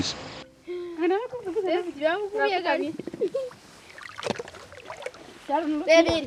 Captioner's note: women speaking in foreign language